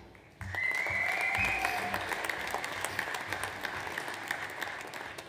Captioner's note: audience applauds